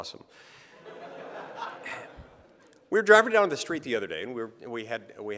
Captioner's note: laughter